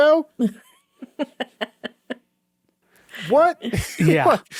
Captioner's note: chuckling